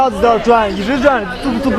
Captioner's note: man, in Mandarin; crowd murmuring in Mandarin; man, in Mandarin